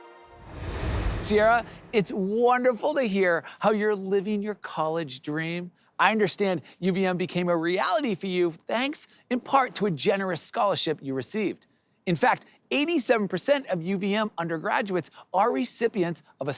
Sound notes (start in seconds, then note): 0.0 air whooshes